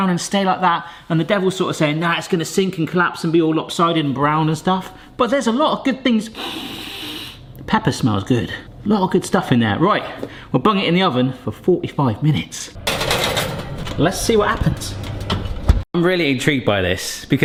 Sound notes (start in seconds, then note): 6.3 sniffs loudly; 12.8 tray rattles